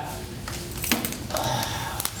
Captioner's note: sighs